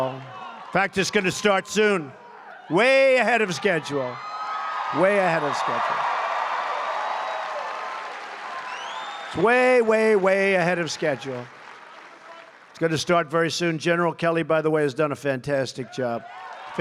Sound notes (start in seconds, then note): 7.7 applause